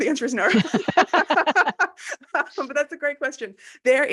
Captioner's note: laughing